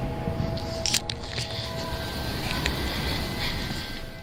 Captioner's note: people screaming